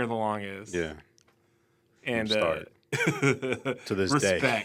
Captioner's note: laughs